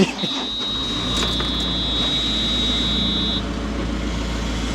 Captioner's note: telehandler rumbles